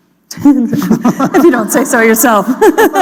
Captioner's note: laughter